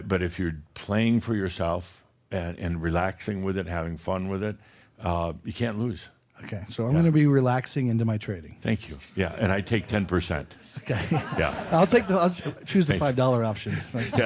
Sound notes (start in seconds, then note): 10.6 laughter; 13.2 they chuckle